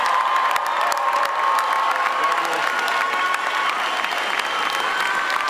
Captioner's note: attendees cheer and applaud